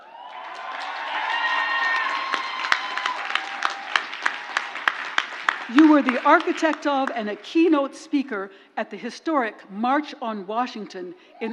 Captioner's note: crowd applauds